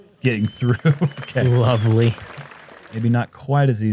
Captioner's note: laughs